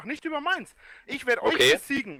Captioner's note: inhales